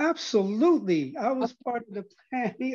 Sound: laugh

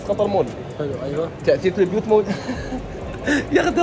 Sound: laughs

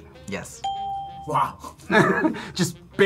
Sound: ding

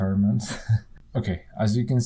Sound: laughs

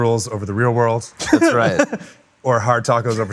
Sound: chuckles

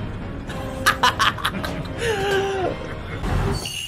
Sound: laughs

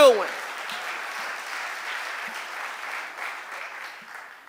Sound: audience applauding

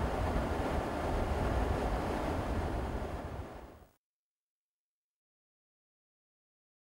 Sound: wind Sounds

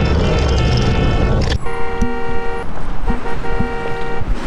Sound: multiple car horns; car horn

